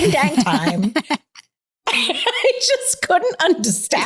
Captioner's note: both laughing